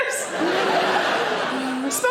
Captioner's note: audience laughing